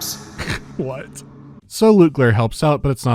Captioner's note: hurk